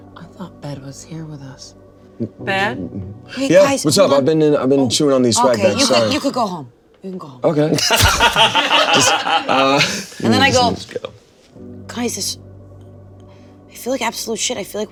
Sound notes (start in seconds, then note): 7.7 all laughing